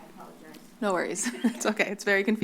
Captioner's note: laugh